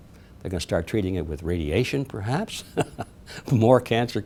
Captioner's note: laughing